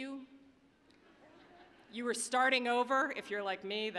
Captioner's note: audience laughing